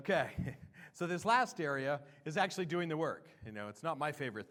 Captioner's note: laughter